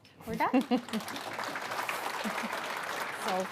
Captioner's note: audience applauds